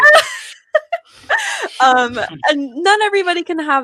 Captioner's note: laughs